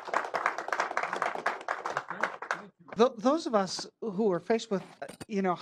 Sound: applause

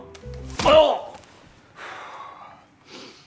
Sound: groans; exhales

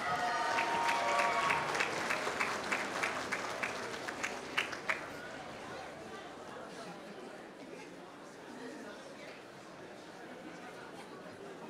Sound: applause

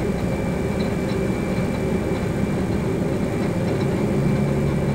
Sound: engine 2 spools up, rattling

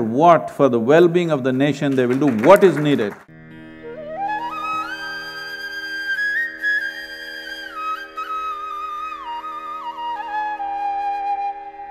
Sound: applause

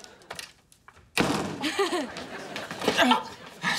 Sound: chuckles

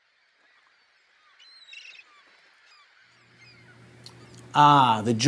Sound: birds squawking

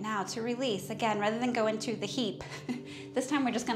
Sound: chuckles

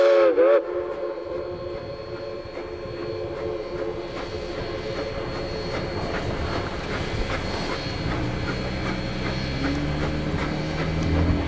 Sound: 484 whistle two shorts

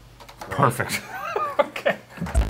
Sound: laughing; chiptune music

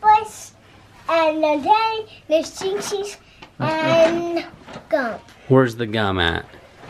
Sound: toddler talking

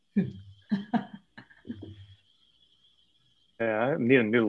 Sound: laughter

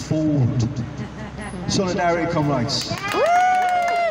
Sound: audience laughter, applause

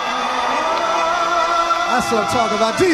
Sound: audience cheering

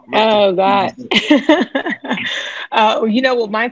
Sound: laughing

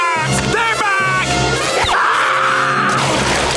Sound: screaming, thudding

